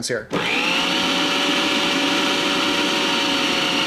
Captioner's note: mixer whirring